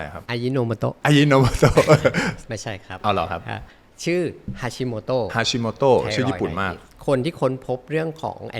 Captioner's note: jokes, mimicking a seasoning brand voice